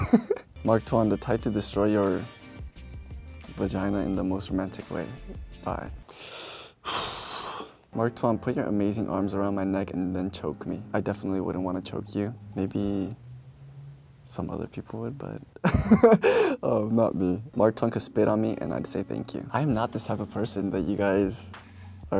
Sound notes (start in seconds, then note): 15.6 he laughs